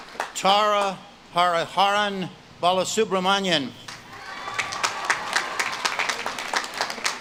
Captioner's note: audience claps and cheers